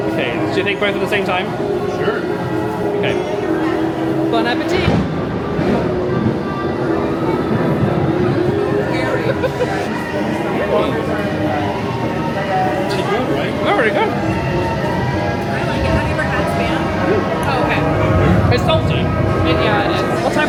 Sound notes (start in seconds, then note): 4.8 thunder booms; 9.3 laughs